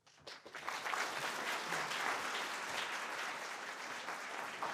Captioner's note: audience applauding